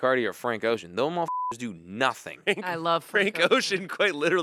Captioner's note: beep